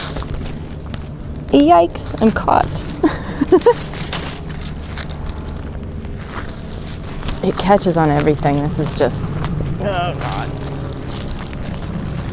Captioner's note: laughs; struggles